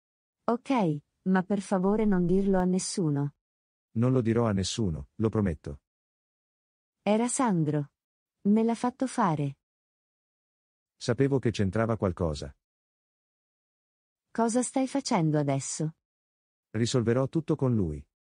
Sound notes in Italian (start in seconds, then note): none